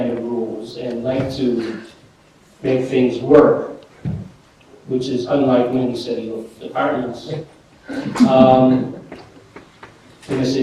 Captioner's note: laughter